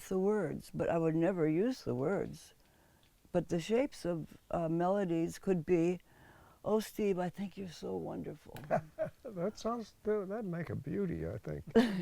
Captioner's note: laughs